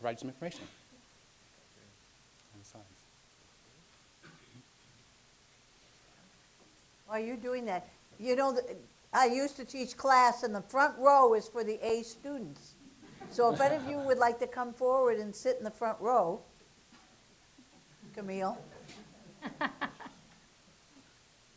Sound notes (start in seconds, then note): 13.0 laughter; 19.2 laughter